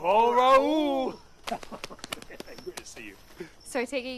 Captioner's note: quiet laughter